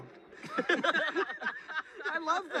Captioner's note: James, Leigh, and Cary all laughing